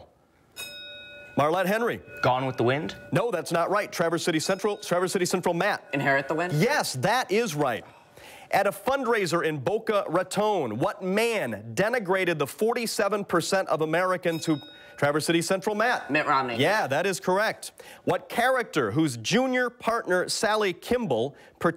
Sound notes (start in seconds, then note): 0.5 bell rings; 14.1 bell rings